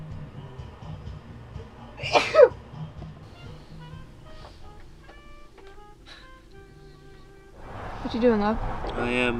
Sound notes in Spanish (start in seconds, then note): 2.0 estornuda